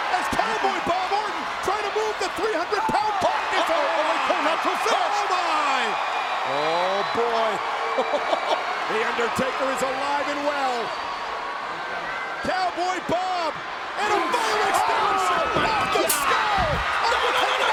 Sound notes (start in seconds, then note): 3.4 audience cheers; 7.9 chuckles